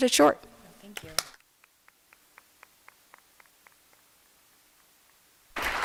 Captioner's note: applause